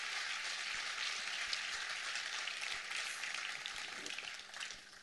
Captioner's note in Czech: trvající potlesk